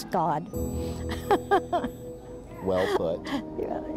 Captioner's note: laughs